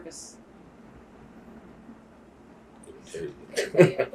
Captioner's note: laughs